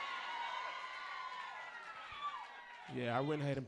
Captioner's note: audience cheers